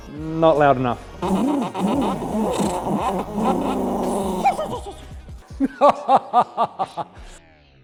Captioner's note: engine noises; mechanics laugh